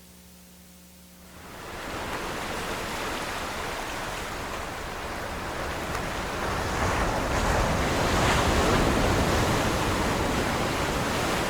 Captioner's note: crashing waves